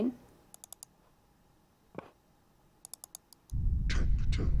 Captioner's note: mouse clicks